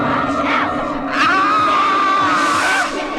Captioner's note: screams